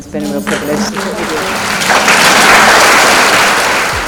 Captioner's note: applause